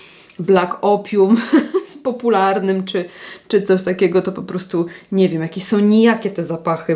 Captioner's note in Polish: śmiech